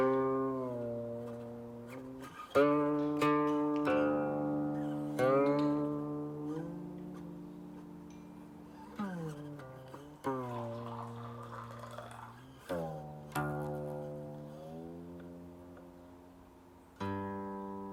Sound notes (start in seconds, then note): 9.9 water gurgling; 15.2 calm music